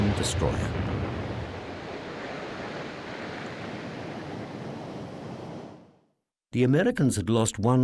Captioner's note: explosion